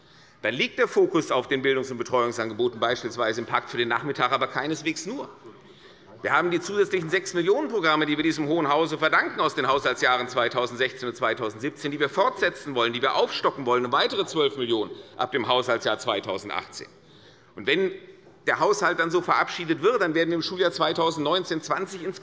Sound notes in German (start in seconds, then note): none